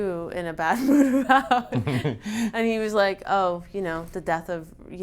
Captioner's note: laughs